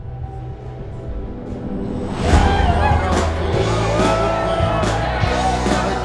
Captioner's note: people cheering; upbeat music